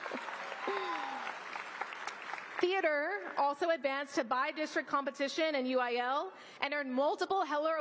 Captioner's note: applause